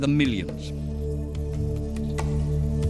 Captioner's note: locusts chirping